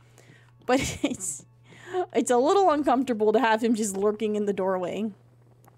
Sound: laughs

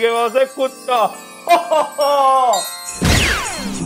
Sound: Santa laughing

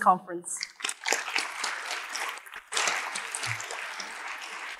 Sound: audience applauding

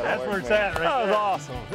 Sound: hands slapping

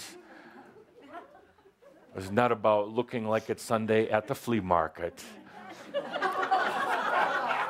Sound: laughter

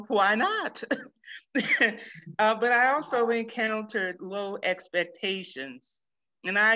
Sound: laughs

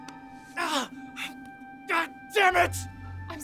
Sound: Dwight gasps

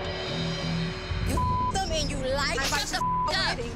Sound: beep

